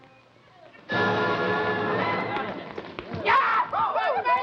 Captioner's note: men cheering